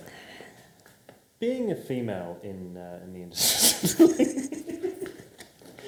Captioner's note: laughing